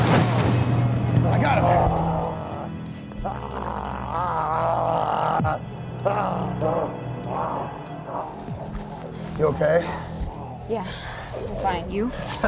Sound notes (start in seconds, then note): 2.0 growling; 12.2 chuckles